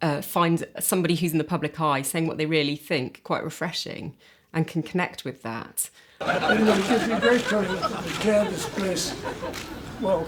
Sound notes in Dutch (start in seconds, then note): 6.2 publiek lacht; 6.4 camera's klikken